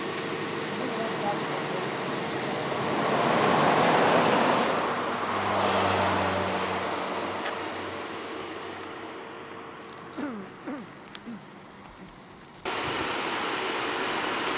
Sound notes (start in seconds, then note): 2.2 car whooshing